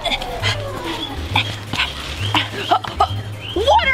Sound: growling; panting

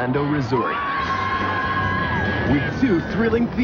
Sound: riders screaming

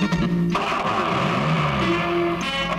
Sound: car engine starts

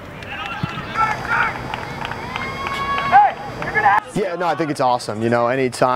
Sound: applause

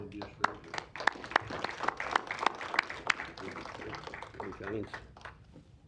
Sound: applause

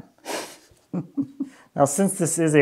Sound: laughs

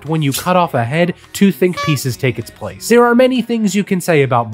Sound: horn honking

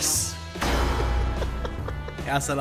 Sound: laughing

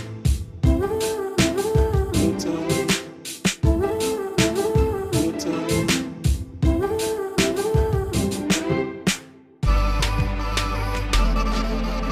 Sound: clap

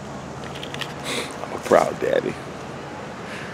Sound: sniffs

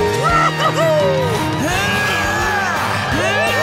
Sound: cheering; straining

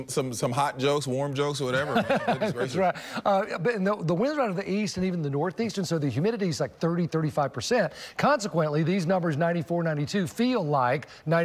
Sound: laughter

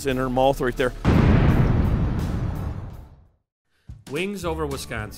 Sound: exploding

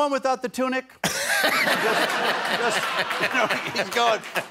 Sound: laughter

